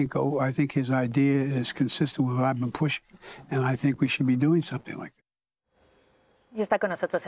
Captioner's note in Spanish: habla en ingés